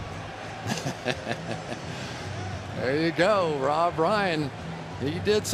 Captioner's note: laughs